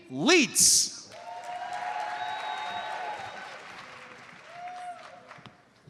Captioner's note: audience cheers and applauds